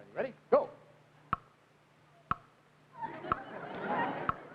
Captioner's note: clock ticking; crowd laughing